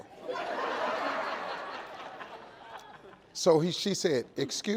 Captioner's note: audience laughing